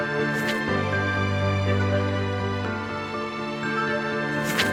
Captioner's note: pages rustling